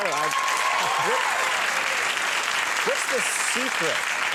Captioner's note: audience applauding